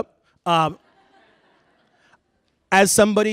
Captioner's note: laughter